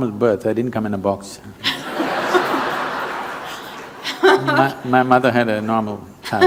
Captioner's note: laughter